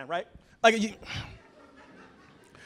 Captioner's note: laughter